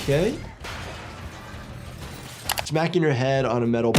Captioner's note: metal crashing